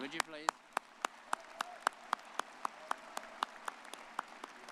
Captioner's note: all applauding